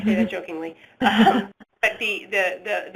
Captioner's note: laughter